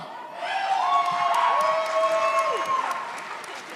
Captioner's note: audience cheers